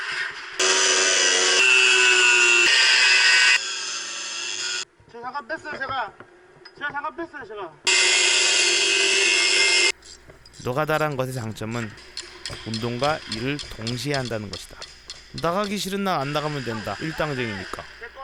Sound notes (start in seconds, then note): 0.6 construction noises; 7.9 construction noises